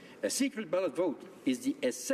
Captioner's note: speaking French; speaking English